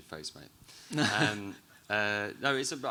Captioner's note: chuckles